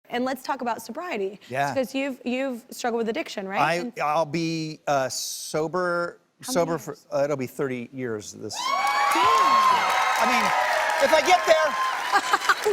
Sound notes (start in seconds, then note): 8.5 audience cheers